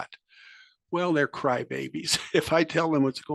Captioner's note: laugh